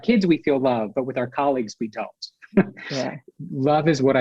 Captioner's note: laughs